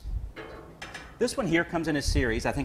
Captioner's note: metal frames clanging